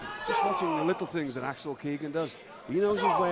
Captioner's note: crowd chatter